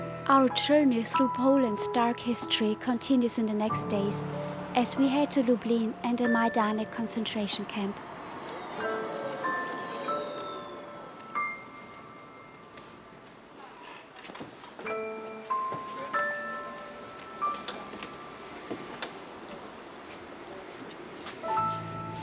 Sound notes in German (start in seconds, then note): 8.6 Straßenbahnlärm